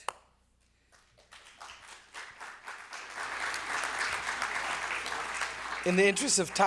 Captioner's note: applause